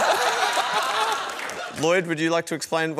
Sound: laughter

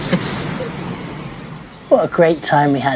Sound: sound of laughing

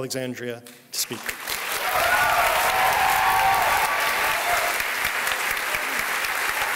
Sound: applause

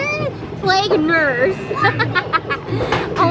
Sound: laughing

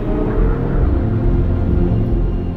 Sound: car motor revs

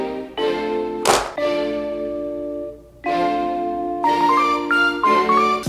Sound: briefcase latches snap

